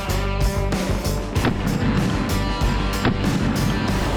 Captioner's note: gunshots